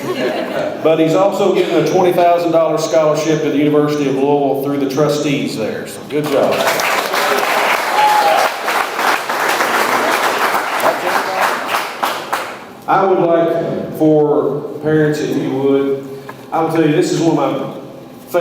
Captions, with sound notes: But he's also given a $20,000 scholarship at the University of Louisville through the trustees there. So, good job. (audience applauds) I would like for, parents if you would, I'll tell you, this is one of my favorite times of the year